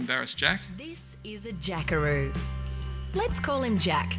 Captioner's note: voiceover